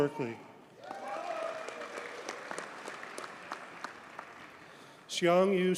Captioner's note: audience cheers and applauds